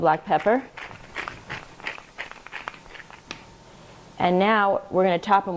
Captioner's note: pepper grinder crackling